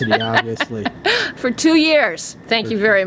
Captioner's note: laughter